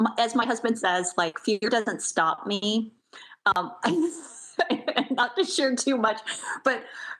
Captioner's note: laughs